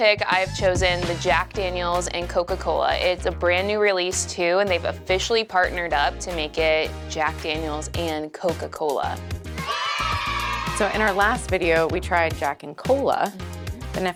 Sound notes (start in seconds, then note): 9.5 group cheering